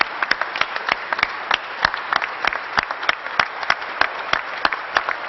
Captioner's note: applause